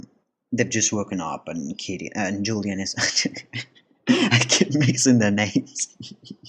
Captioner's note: laugh